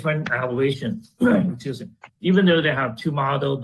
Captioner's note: clears throat